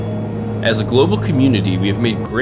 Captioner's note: voiceover